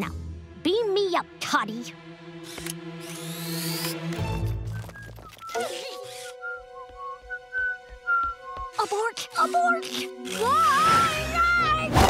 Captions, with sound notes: Now, beam me up, Toddy. [whistling] Abort, abort! [screaming]